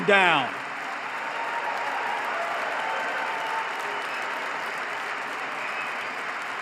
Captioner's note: applause